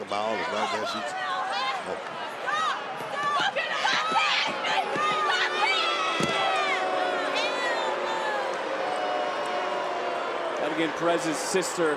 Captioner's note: crowd boos